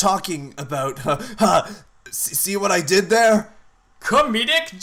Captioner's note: laughs